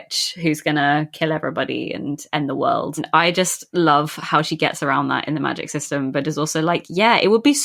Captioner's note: none